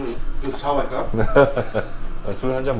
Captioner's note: snickers